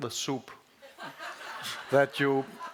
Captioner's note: laughter